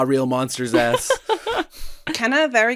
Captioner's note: laughter